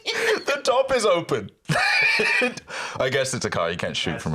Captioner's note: laughs